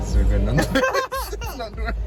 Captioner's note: both laugh